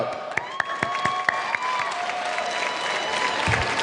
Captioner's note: clapping